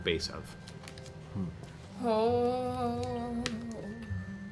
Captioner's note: worried sounds